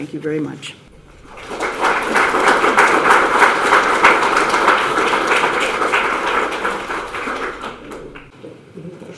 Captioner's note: audience applause